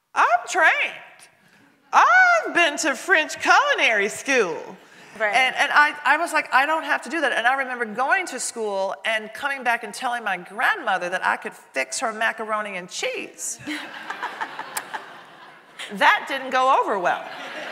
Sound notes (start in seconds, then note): 13.6 audience laughing